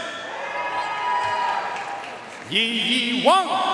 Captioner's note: audience cheering and applauding